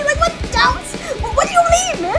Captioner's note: inhale